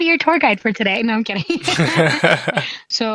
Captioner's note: both laughing